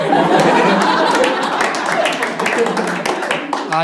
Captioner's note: laughs; Clapping